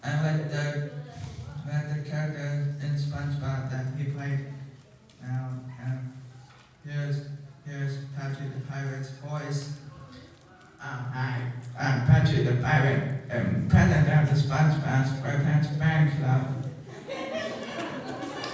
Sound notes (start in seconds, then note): 11.2 does Patchy's voice; 18.1 applause